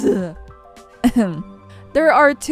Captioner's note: ehem